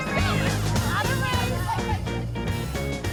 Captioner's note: chatter